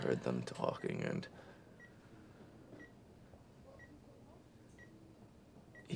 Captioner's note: monitors beeping